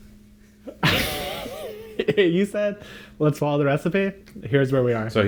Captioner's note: laughs